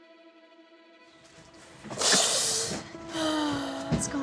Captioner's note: crying